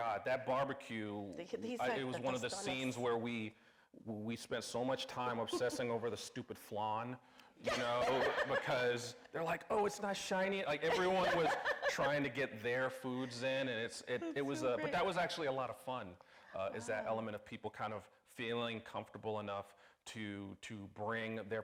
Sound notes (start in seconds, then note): 7.7 everybody laughing; 10.9 laughing